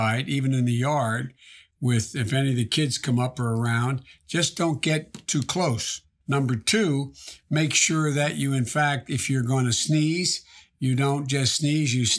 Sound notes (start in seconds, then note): none